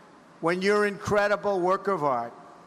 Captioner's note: none